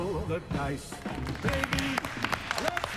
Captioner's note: applause